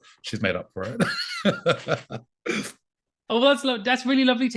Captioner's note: laughs